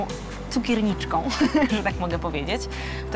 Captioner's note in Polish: śmiech